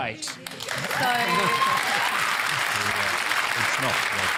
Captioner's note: cheering and applause